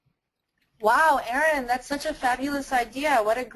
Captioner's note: voiceover